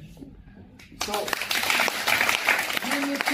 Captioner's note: 掌聲